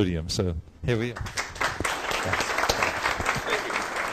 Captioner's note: applause